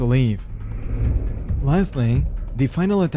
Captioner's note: air woosh